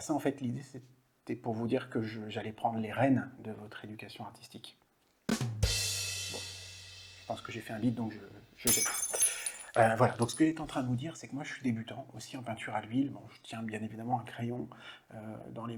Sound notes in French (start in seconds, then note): 5.3 bruit de batterie; 8.6 bruit de verre brisé